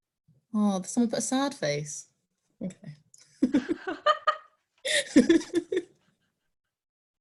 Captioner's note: both laughing